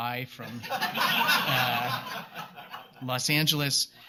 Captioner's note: laughter